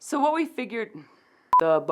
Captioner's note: angry sigh